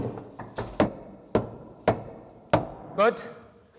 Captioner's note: knock